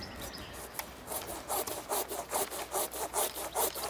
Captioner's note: energetic sawing noises